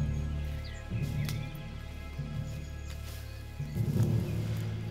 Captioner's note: bushes rustle